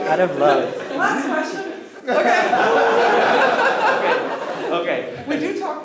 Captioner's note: laughter